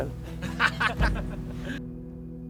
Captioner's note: laughter